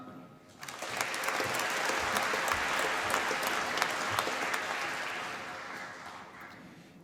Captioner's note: applause